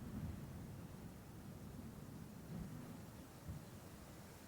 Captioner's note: wind